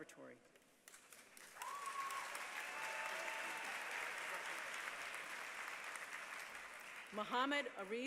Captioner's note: applause